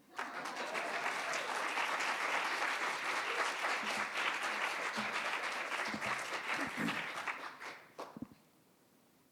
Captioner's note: audience clapping